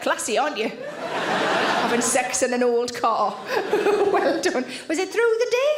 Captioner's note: audience laughing